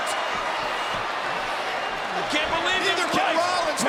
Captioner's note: applause